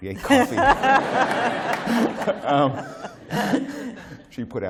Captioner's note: laughter